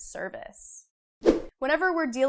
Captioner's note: frame whooshes